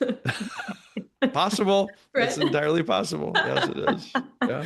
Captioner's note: laughter